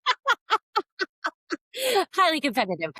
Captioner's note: laughter